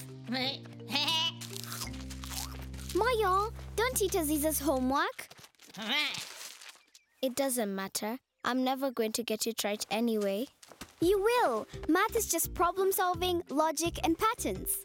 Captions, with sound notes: [Moyo bleating] [chewing] Moyo! Don’t eat Aziza’s homework! [Moyo bleats sheepishly] It doesn’t matter. I’m never going to get it right anyway. You will. Math is just problem-solving, logic and patterns.